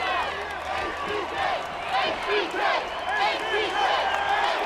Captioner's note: crowd chants "HBK"